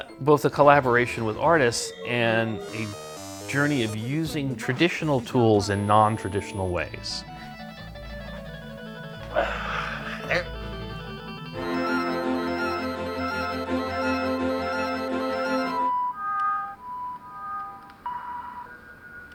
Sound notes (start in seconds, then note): 16.3 analog sounds